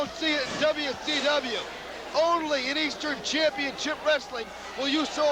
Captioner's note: crowd cheering